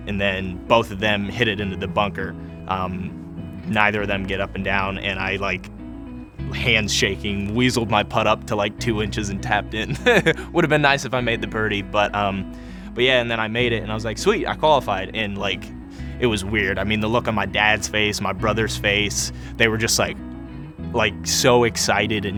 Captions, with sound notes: And then both of them hit it into the bunker, neither of them get up and down, and I like, handshaking, weaseled my pot up to like two inches and tapped in, (laughs) would have been nice if I made the birdie, but yeah, and then I made it and I was like, sweet, I qualified and like, it was weird. I mean, the look of my dad's face, my brother's face, they were just like, like so excited,